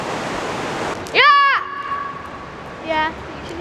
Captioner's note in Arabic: يصرخ